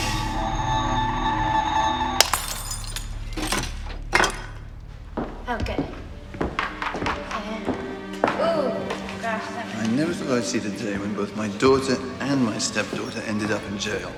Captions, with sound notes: (glass shattering) - I never thought I'd see the day when both my daughter and my step daughter ended up in Jail.